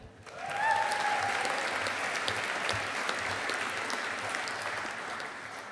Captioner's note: audience applauding